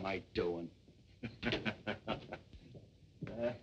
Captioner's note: chuckling